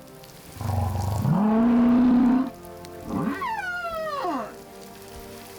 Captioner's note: grunting, squeaking